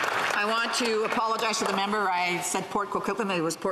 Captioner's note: some Applause